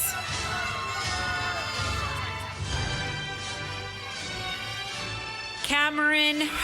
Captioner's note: applause